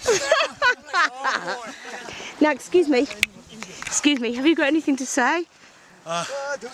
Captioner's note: laughter